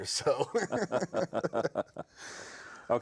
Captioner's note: both laughing